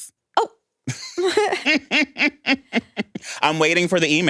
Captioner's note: laughs